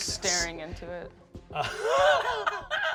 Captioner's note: laughs